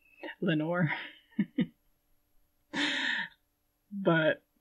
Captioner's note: laughing